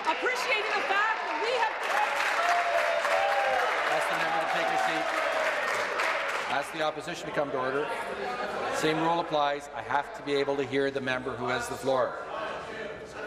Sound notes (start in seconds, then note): 4.6 applause